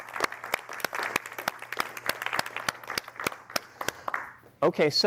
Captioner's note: applause